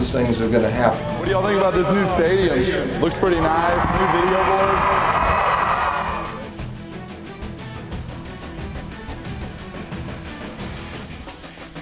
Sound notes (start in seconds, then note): 4.8 crowd cheers; 6.3 intense music